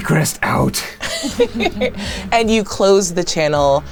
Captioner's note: giggling; laughing